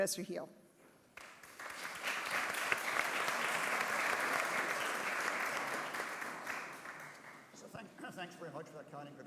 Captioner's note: applause